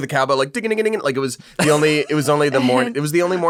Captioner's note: man making funny sounds